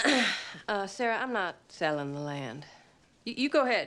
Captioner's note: coughs